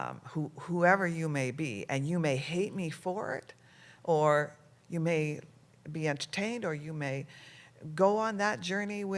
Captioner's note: none